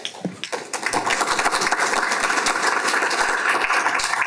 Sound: applause

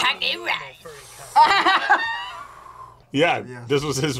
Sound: sighs; laughs

